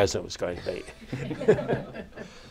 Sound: laughter

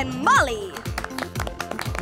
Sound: clapping

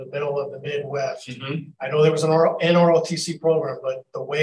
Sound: mumble of agreement

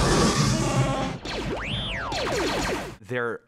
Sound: chewbacca groaning; warbling excitedly

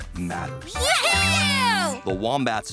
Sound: kids cheer

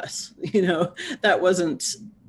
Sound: laughs

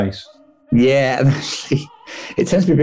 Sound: laughs

